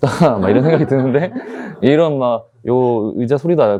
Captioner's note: everyone laughs